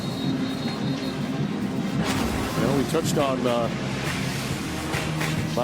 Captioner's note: whistle blowing